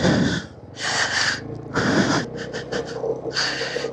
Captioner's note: gasp; sigh